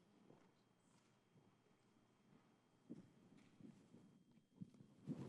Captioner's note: footsteps clattering